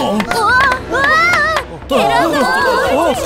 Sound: Gaedori shouts

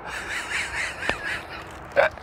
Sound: laughing

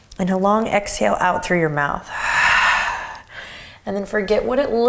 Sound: exhaling

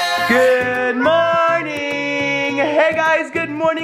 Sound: in Unison

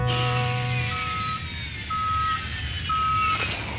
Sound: beeping

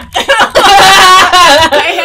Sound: crying in pain and suffering

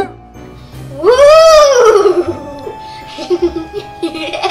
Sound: laughs

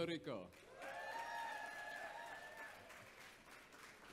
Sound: audience cheers

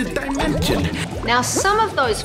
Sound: bubbles

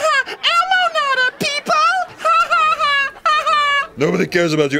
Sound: laughs

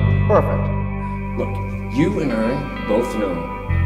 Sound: voice-over

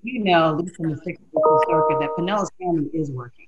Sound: mumbles

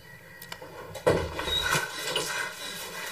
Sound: door opens; panting

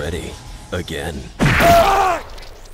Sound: screams

